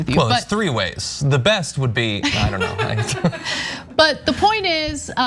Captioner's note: laugh